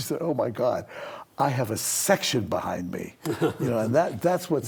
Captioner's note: laughs